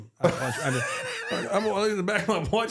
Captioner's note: Mark laughing